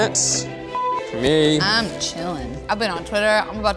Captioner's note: beep